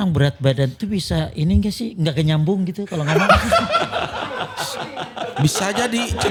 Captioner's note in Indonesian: tertawa